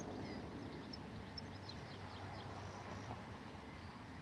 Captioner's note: birds chirping